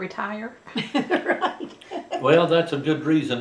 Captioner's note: laughs